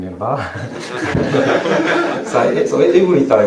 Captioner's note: laughter